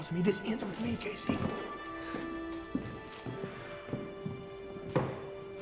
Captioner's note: casey's footsteps